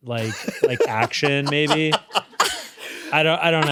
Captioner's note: laughs